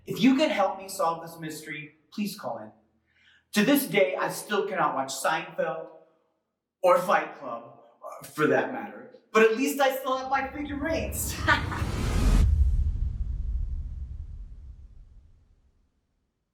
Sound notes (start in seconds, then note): 11.4 laughs; 12.2 eerie music